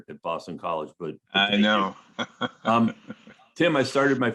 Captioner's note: laughing